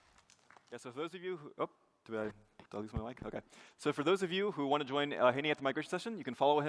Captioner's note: applause